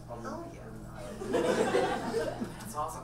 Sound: audience laughs

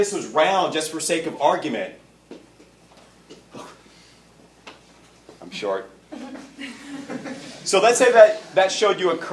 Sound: laughter

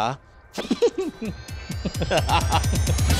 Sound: laughs

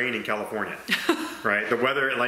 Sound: laughs

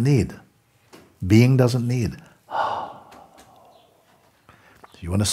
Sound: long exhale

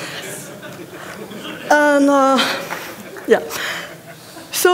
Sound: laughter

